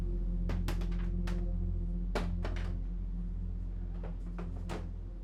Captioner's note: plastic clacking; calm music continues